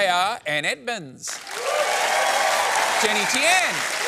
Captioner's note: cheering and applause